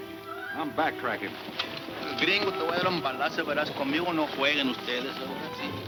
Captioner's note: speaking in foreign language